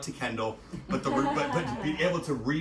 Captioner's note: scattered laughter